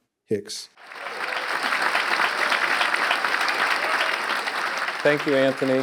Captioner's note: audience clapping; audience cheering